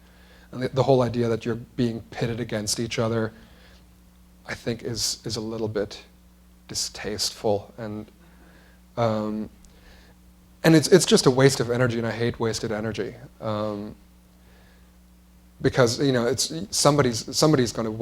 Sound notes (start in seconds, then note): none